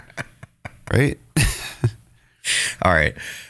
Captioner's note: laughs